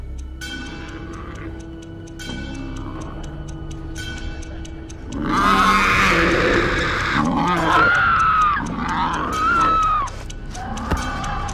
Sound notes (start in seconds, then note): 5.0 creature growling; 5.2 lamb screaming